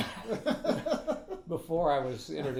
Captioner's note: laughing